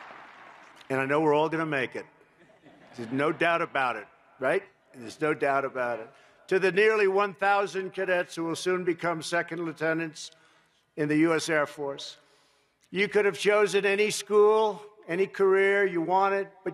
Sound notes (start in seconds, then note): 0.0 applause; 2.4 laughter